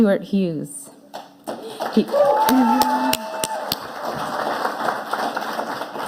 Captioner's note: audience applauding